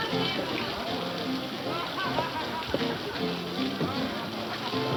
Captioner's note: people laughing